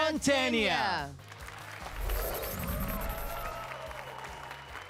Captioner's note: applause and cheers